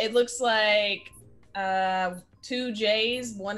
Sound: none

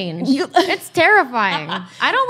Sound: laughs

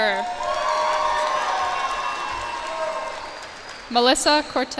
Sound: cheers and applause

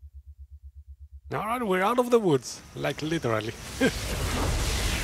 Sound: laughs

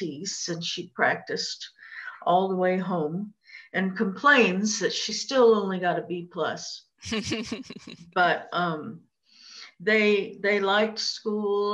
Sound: laughter

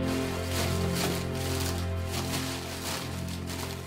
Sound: paper rustling

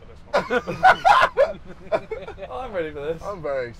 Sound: laughing

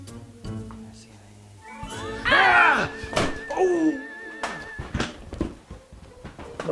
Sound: screams

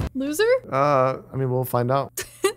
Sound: laughs

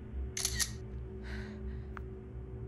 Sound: camera shutter

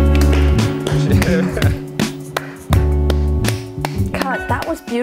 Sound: clapping

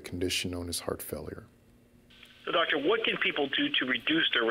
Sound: voiceover

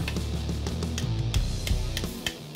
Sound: hammer tapping

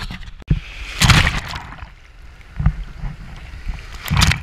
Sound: water rustling

